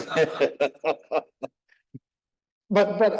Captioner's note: laughing